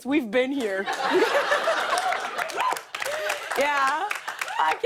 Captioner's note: laughs